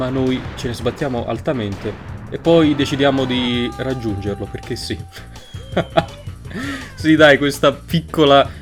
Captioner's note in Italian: risatina